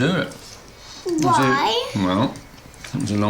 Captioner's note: none